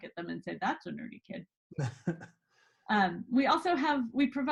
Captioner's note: laughs